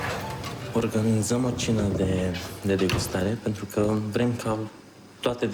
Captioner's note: speaking foreign language